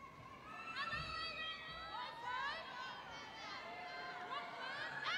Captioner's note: crowd cheering